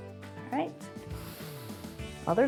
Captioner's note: inhales